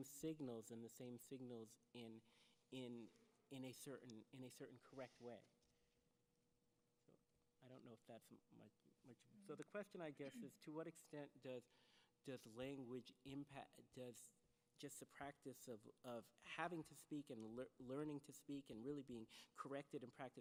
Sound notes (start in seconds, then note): 9.2 speaks off microphone